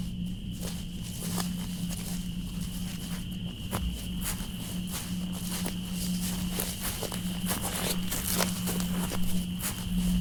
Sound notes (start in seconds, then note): 1.7 footsteps in the undergrowth